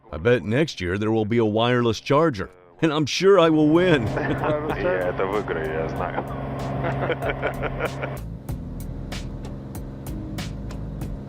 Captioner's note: laughing